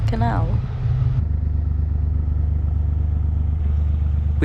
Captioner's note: narrowboat engine sounds